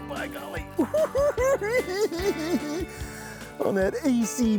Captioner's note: cackling